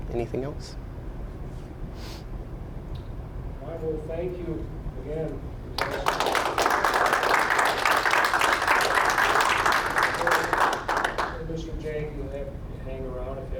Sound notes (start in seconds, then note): 5.7 applause